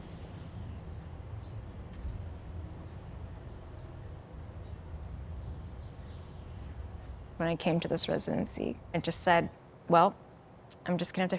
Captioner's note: birds chirping